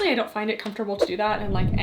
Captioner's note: screen whooshing